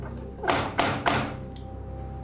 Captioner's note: ominous music; knocking